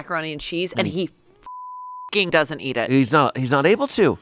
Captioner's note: beep